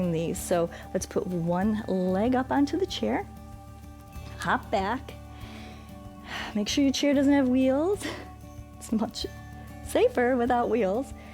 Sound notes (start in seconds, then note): 5.3 inhales and exhales